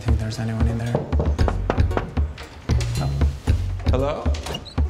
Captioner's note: door knocking